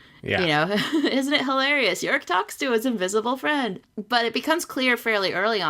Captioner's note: laughs